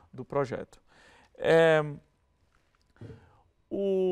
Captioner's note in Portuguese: silêncio